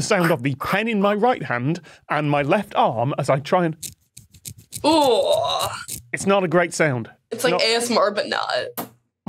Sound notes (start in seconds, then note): 3.8 pen rattles